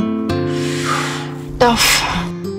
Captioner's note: Inhales sharply